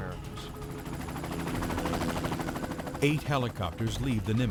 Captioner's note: engine whirs